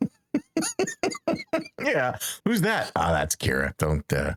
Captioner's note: laughing